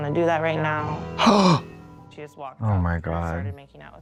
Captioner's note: Trixie gasps